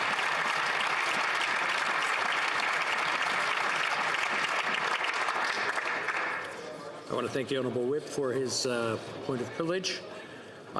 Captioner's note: some Applause